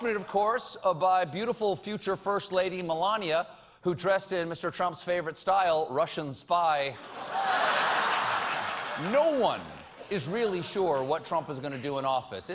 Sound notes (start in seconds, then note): 7.0 laughter